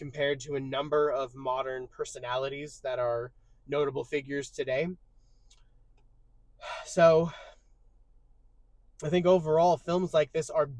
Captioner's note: sighs and gasps